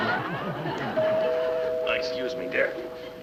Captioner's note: ringing doorbell